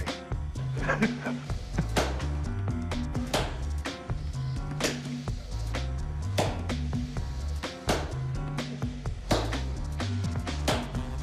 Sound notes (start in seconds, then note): 0.7 laughs; 4.2 slow clapping